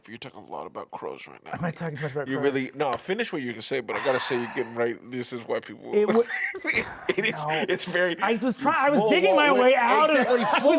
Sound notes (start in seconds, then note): 6.1 laughs